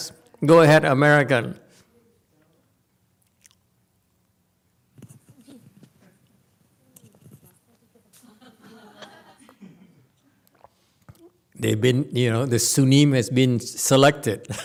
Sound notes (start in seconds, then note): 9.4 laughs